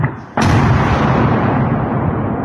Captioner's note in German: Detonation